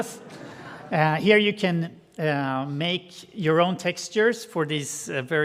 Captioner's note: audience laughing